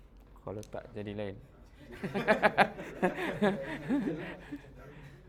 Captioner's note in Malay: ketawa